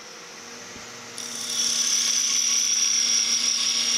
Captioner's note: machine whirring